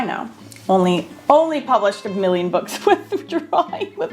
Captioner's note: laughing